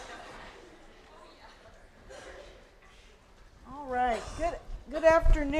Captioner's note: background Discussion